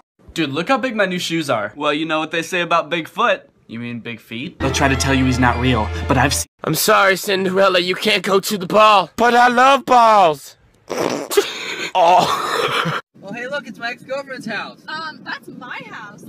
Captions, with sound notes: -dude look how big my new shoes are -well you know what they say about big foot! ...you mean big feet? they try to tell you hes not real. but ive seen- im sorry cinderella you cant go to the ball! but i love balls..!! *judgmental laughter* OH- *LAUGHS* -oh hey look its my ex girlfriends house -uhm thats my house